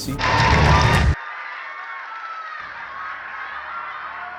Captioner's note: crowd cheering